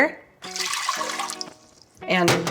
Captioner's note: water pouring